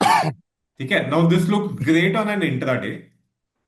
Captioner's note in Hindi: गला साफ़ करने की आवाज़